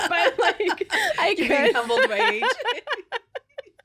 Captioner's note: laughing